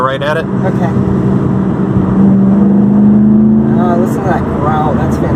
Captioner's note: more V8 engine revving noises